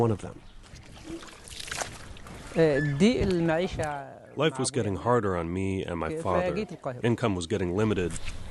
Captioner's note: through translator